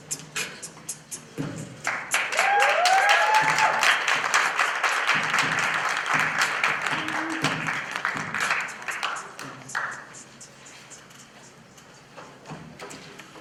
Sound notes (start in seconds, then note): 1.8 applause